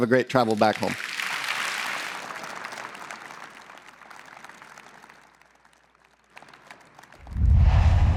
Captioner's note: applause